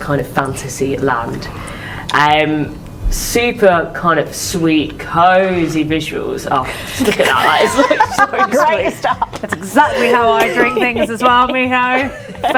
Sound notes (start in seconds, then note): 7.0 laughing